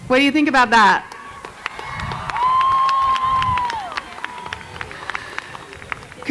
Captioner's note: cheers and Applause